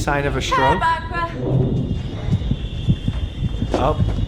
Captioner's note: slurring